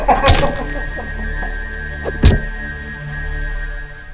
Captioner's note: hammer thwacks